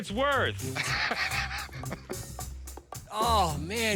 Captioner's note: laughs